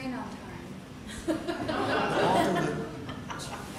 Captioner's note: audience laughter